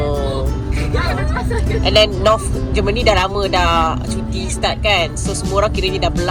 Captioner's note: laugh